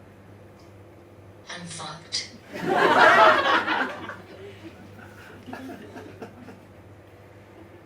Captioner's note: audience laughs